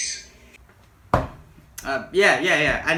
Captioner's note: fork stabbing